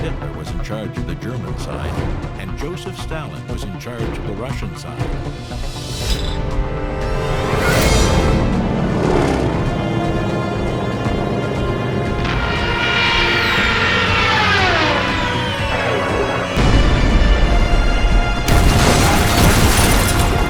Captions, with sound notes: Adolf Hitler was in charge of the German side and Joseph Stalin was in charge of the Russian side. (plane engines roaring) (dramatic music)